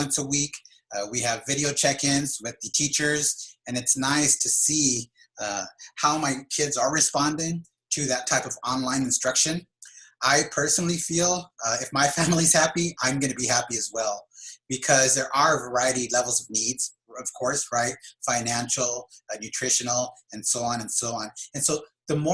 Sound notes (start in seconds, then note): 12.0 laughs